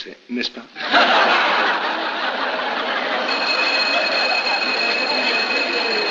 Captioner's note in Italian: risate